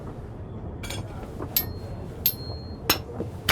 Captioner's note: chimes spoons rhythmically